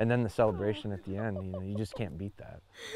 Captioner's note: woman laughing